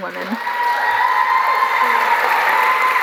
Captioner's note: applause